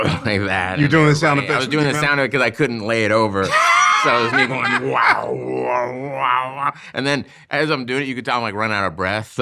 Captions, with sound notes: - You're doing the sound effects? - I was doing the sound because I couldn't lay it over. So I was me going (imitating sound effects) and then as I'm doing it, you could tell I'm like running out of breath.